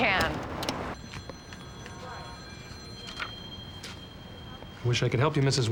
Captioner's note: telephones ringing